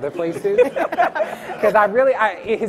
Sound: laughs

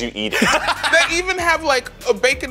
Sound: laughs

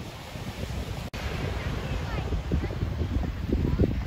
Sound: waves rushing

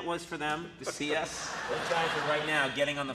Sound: Jeff chuckles; audience laughs

